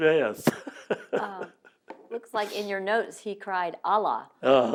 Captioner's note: laughs